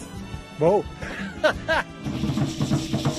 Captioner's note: laughs